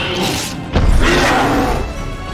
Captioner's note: roars